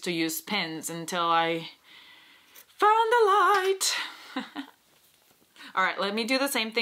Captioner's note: chuckles